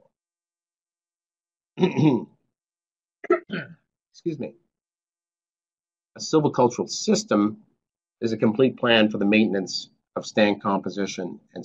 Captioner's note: cough